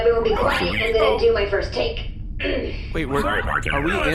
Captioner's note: clears throat